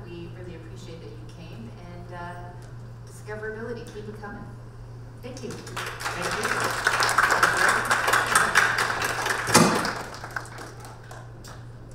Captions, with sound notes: We really appreciate that you came and discoverability. Keep it coming. Thank you. (audience and panel applauding)